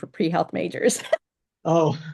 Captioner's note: laughs